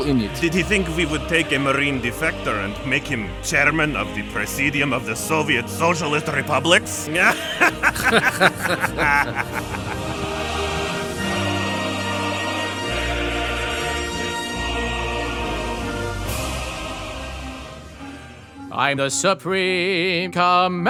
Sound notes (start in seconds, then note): 10.4 laughing